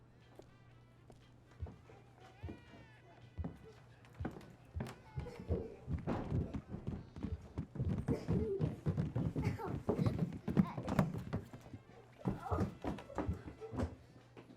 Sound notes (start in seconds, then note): 5.0 baby continues crying; 5.1 footsteps clomping; 9.2 child giggles; 9.9 footsteps continue clomping